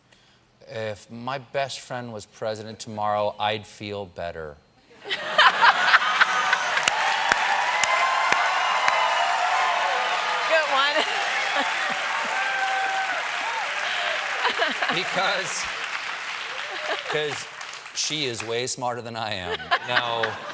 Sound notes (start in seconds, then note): 4.7 laughter; 5.2 cheers and applause